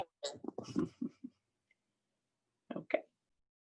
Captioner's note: chuckles